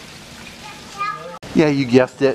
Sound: child muttering

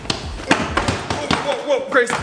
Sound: clattering

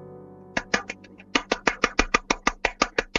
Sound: clap clap

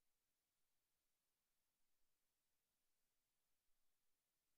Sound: none

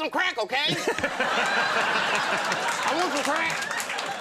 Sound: audience laughing

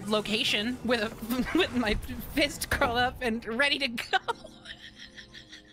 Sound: stammering; laughter

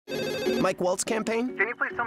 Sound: phone rings

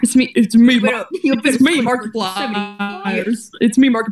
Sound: glitching

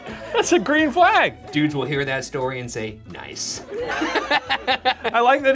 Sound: laughs

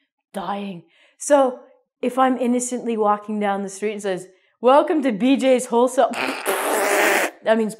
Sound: laughs

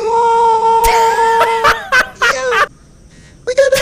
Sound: laughter

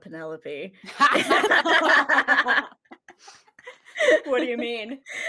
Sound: all laughing

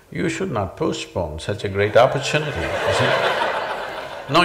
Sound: laughter

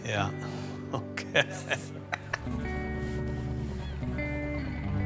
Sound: laughing

